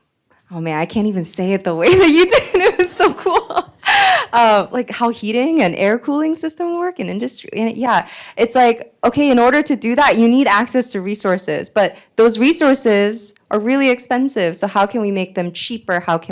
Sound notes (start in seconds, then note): 1.9 laughs